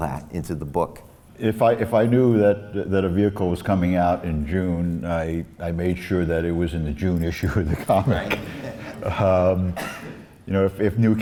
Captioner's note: laughs